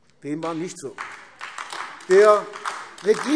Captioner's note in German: Beifall AfD